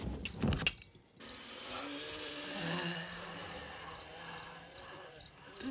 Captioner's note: groaning, wheezing